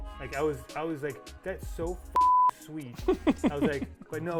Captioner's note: beep